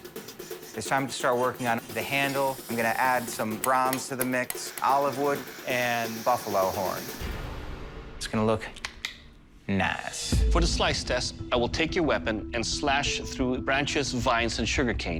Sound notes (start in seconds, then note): 8.8 snapping